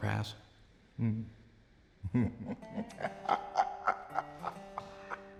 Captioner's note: chuckling